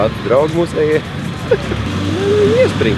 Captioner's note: laughs